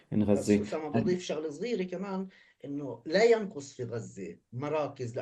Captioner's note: speaking arabic